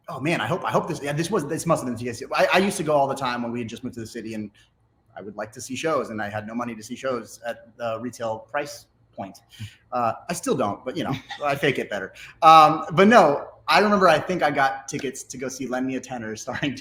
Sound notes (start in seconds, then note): 11.0 giggles; 16.5 laughs